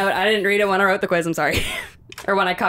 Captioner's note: chuckles